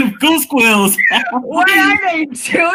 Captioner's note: laughing